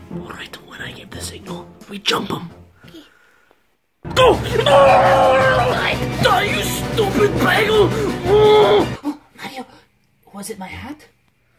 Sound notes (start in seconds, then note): 4.2 screaming; 9.0 gasps